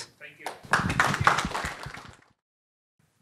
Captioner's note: audience applauding